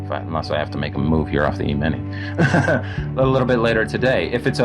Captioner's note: laughs